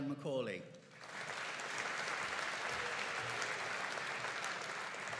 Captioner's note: audience applauding